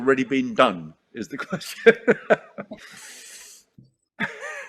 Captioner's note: laughs